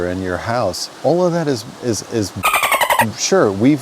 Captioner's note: dolphin squeaks